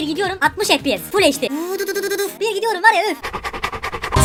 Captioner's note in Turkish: gerçekçi motor efekti